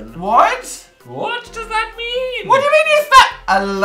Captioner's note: none